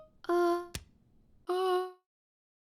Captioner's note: click